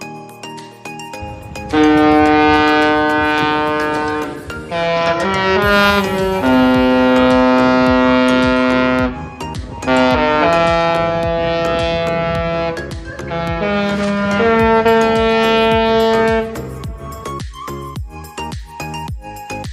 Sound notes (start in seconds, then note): 2.2 Sky Princess horn doing a tune